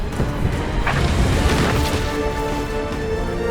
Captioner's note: sharp whooshing